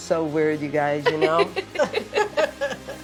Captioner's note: all laughing